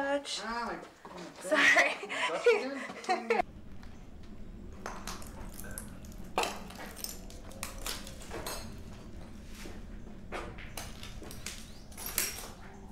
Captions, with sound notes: -Ow - that's kinda bright... -Sorry! [laughter] [eerie wind] [footsteps over broken glass/debris]